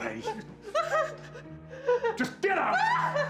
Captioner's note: crying